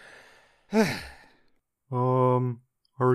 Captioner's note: sigh